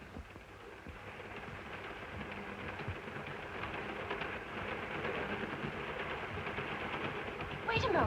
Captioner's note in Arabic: صوت خشخشة القطار